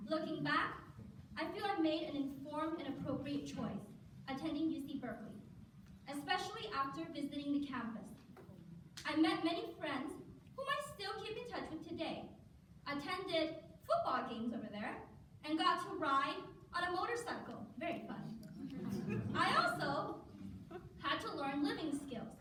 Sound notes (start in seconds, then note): 18.6 laughter